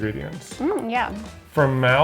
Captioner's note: hums